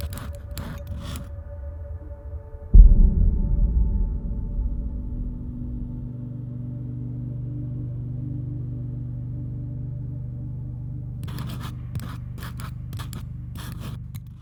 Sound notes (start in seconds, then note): 2.7 thunder rolling; 8.0 quiet monotonous hum; 11.5 wood scraping